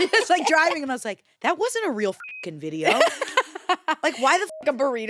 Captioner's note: beep; beep